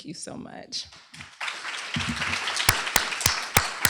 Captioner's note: applause